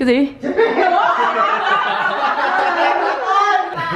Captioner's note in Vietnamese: tiếng cười